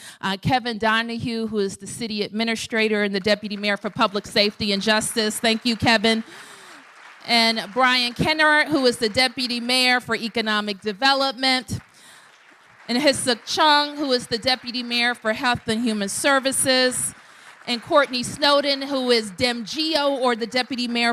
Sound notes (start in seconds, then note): 6.6 applause; 11.7 applause